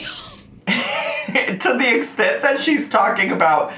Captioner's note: laughs